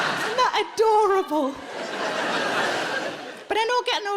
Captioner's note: audience laughing